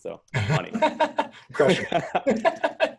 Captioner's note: laughs